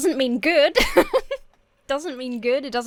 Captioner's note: laughs